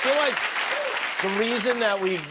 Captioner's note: cheers and applause